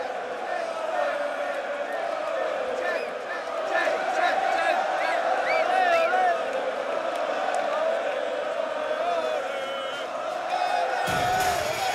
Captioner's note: crowd cheering